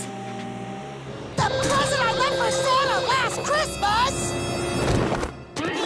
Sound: shouting

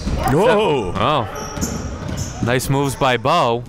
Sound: exclaiming

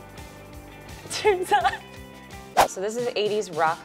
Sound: laughing

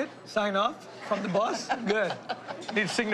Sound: laughing

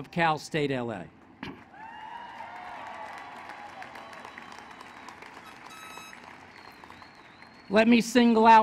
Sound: applause

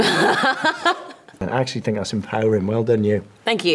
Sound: laughs

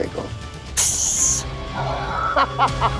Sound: Imitating Snake hiss; laughing

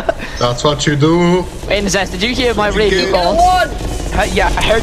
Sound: sounds of a small, red, and circular demon coming closer

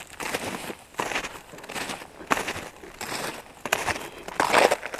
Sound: footsteps crunching

